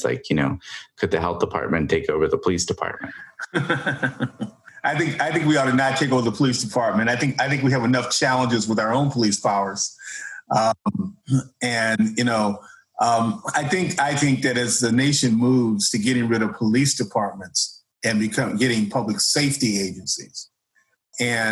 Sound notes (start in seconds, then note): 2.8 laughs